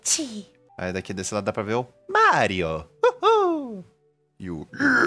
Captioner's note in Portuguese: woohoo!